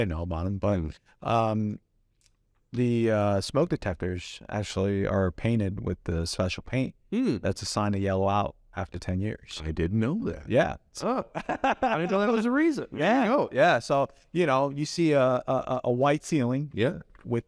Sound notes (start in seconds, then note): 11.1 laughs